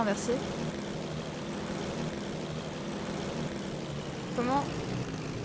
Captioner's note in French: bruit de moteur qui crachote